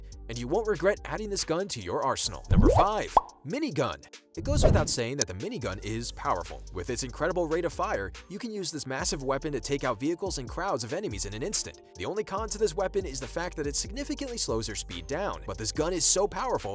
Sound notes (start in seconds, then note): 2.5 bubble popping; 4.4 whoosing